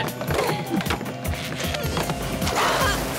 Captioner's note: crash